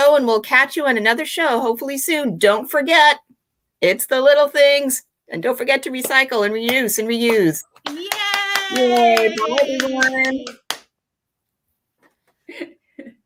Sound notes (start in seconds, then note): 7.8 cheering; 11.6 laughing